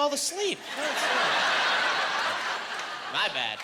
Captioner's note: laughing